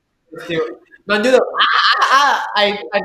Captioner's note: SpongeBob-like scream